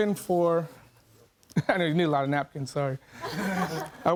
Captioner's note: chuckles